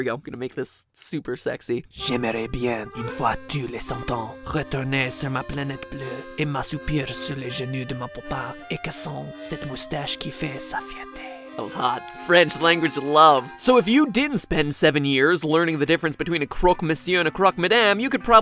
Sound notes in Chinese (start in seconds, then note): 2.2 用超性感聲線念法文句子